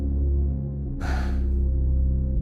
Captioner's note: sigh